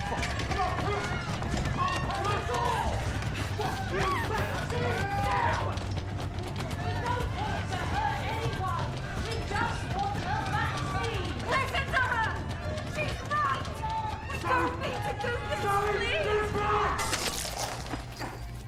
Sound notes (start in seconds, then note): 0.0 mob shouting; 2.8 mob screaming and baying